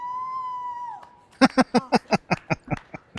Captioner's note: laughing